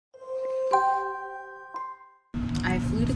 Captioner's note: bells chime